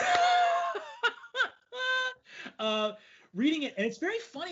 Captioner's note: laughs out loud